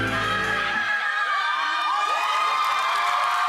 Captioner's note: overlapping screaming; whooping, applause